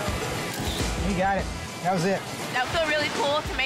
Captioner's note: camera snaps